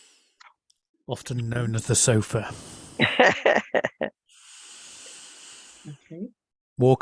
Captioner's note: laughs